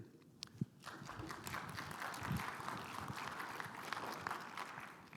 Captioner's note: crowd applauds